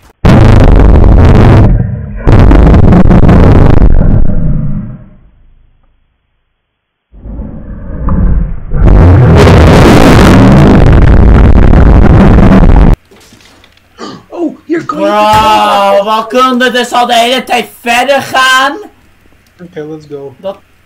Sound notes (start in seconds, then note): 13.0 wood falls; 14.0 gasps